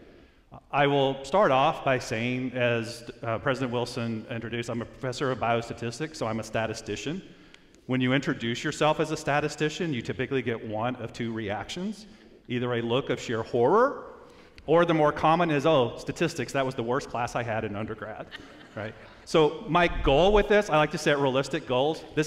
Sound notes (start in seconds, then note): 18.3 audience laughs